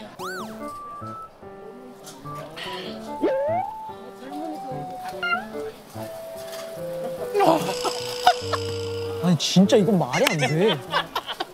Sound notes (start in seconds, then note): 2.4 exclaiming; 7.2 laughing